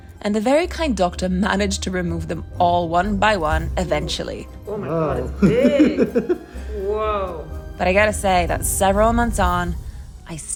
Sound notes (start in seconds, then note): 4.7 doctor laughs